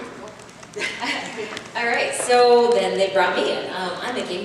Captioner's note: laughs